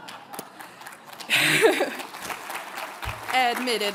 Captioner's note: audience laughs; audience applauds